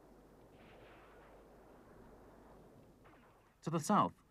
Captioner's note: guns firing